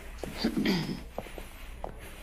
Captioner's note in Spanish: Leonor carraspea